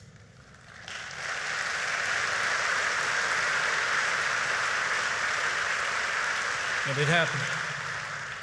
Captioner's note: applause